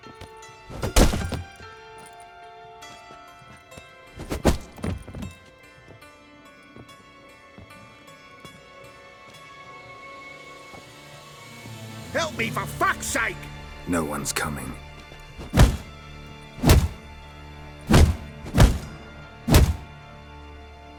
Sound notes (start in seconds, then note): 0.7 blow lands; 15.4 multiple blows